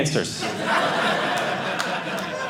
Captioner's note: audience laughing